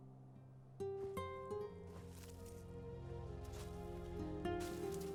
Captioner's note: soft scraping